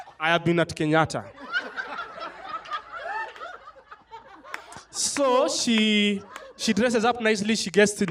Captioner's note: laughter